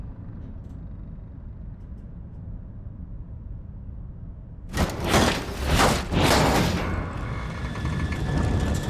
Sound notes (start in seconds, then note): 7.1 metallic clanking